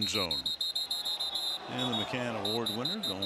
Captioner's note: whistle